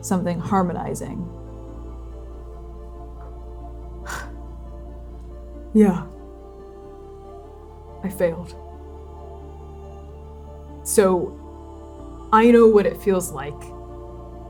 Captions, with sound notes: Something harmonizing. [exhaling] Yeah. I failed. So I know what it feels like